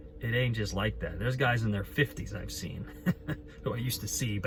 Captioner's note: chuckles